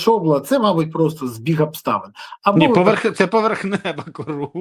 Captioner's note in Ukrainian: сміх